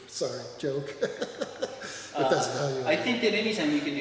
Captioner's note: laughs